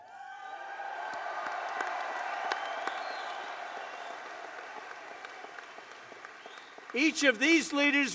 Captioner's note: applause